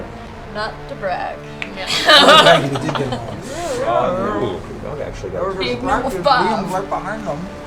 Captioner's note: laughs